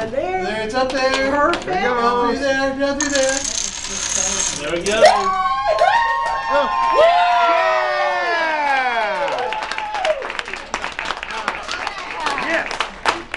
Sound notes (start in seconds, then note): 5.0 cheers & Applause